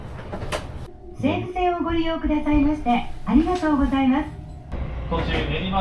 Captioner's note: speaking Japanese